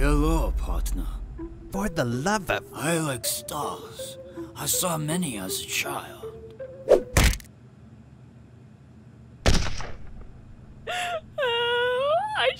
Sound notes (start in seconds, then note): 9.4 gunshot; 10.9 cries